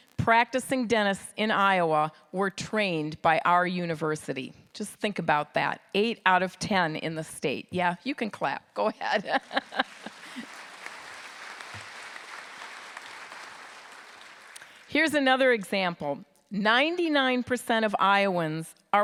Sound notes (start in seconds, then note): 9.6 applause